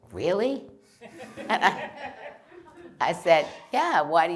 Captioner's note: laughter